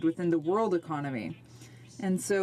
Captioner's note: speaking in french